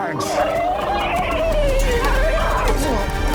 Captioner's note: whinnying